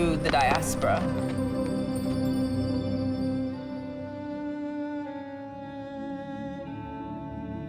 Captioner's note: weaves crackling; gentle music